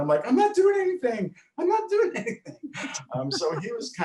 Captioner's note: laughs